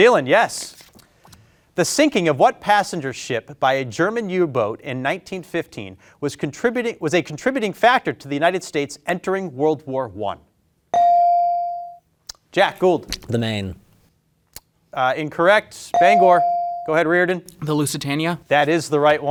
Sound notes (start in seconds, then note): 11.0 bell ringing; 15.9 bell ringing